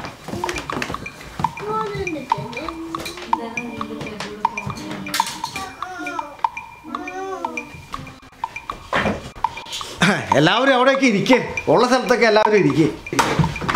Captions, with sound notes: [kids mumble] Everyone, sit there. Sit wherever you want to.